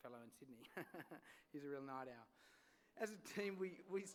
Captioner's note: chuckles